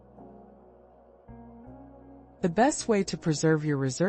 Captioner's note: pause